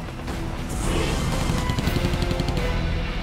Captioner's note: gunfire